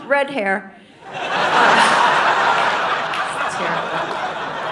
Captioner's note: audience laughing